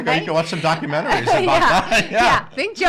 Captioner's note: laughing